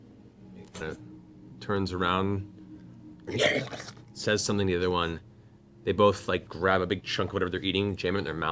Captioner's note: trollish grunt